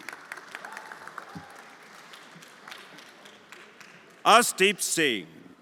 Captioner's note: everyone applauding